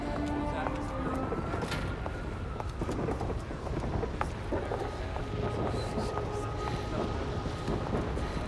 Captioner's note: footstep